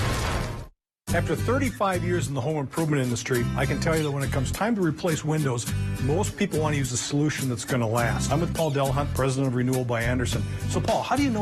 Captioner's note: SFX: "Built Ford Tough" Slam